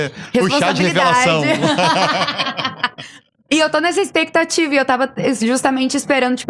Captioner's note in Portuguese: risadas